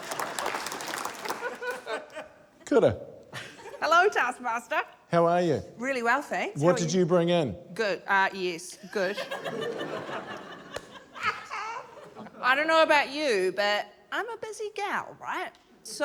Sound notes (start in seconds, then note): 0.0 applause; 8.9 laughter; 11.1 cackles